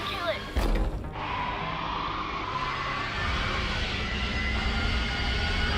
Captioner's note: demogorgon screeches